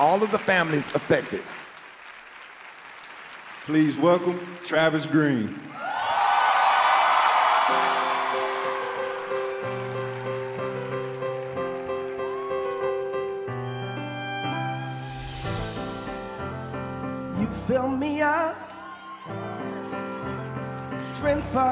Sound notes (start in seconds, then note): 6.1 cheers and applause